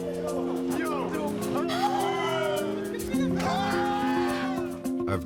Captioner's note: all exclaiming